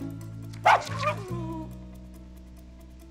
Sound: barks

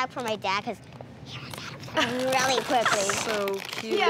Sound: whispers

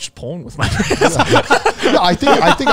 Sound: everyone laughs

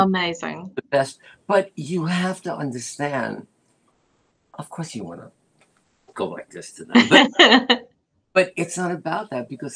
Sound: laughter

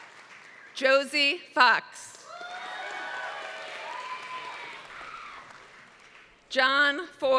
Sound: applause; applause

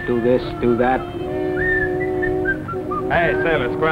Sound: whistling

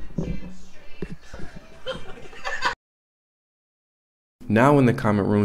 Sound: laughing

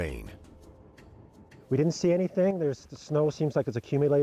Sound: voiceover

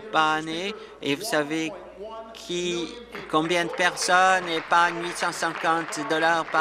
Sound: applause

